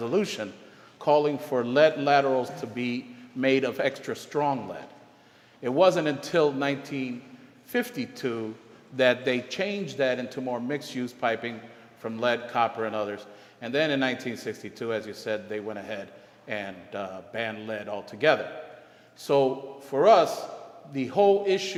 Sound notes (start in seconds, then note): none